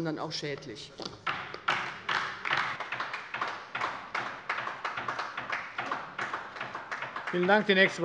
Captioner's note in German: Beifall bei der LINKEN